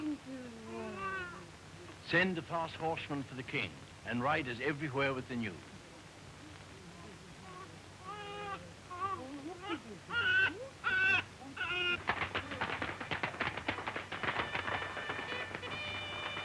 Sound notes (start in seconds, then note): 8.8 crying continues; 11.6 horse galloping, trumpets sounding